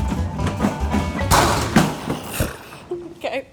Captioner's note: crash